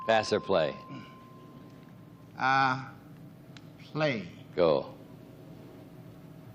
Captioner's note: bell dings